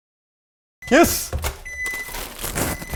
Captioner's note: microwave dinging